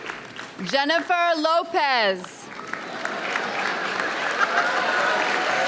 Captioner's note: audience applauds; audience cheers